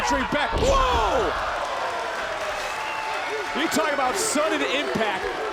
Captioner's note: audience cheering